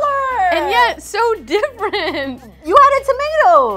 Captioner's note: laughs